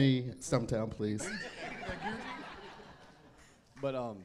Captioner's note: audience laughing